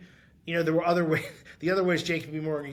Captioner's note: chuckling